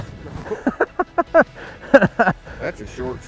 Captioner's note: laughs